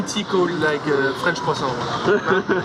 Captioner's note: laughter